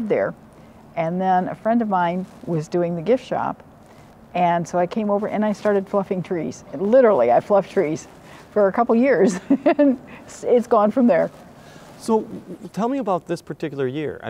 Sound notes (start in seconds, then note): 9.2 laughing